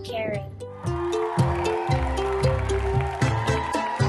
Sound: people cheering

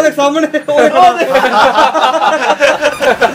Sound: laugh

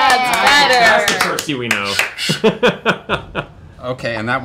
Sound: laughs

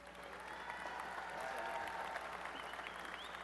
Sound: applause and cheering

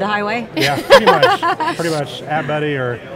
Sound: laughs

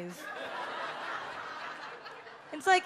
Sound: audience laughs

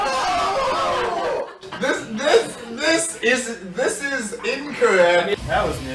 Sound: laughs

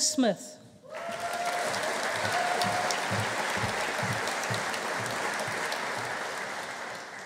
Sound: audience applauding; audience cheering

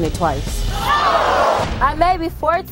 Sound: audience screaming

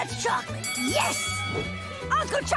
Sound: bell ringing

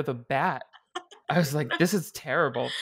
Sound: laughing

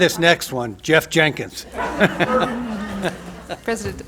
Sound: laughter

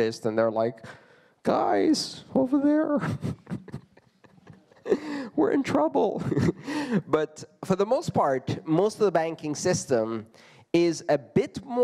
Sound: laughter

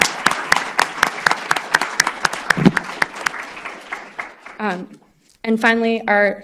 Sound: applause

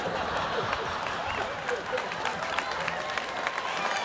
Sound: students laughing

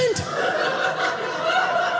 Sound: audience laughing

